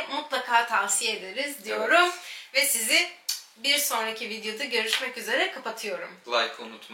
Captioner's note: kiss